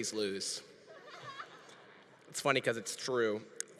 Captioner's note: congregation laughing